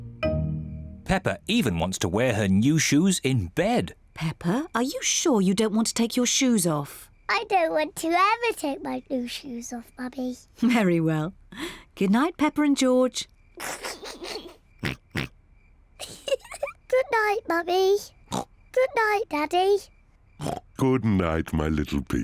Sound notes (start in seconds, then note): 13.6 snickers; 14.8 oinks; 16.0 giggles; 17.6 oinks